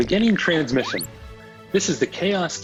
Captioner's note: digital beeping; cinematic action music